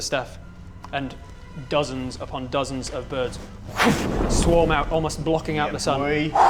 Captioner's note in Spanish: swhoo